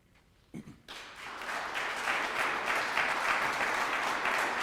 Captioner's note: audience clapping